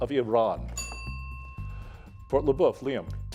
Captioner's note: bell dinging